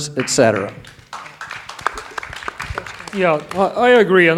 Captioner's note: audience applauding